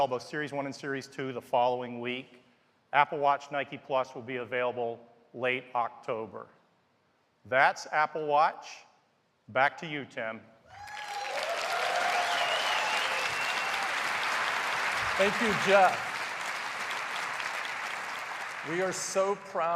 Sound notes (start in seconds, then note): 10.3 cheers and applause